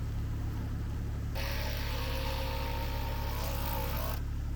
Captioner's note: drill whirring